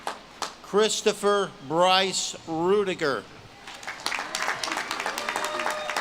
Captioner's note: audience claps and cheers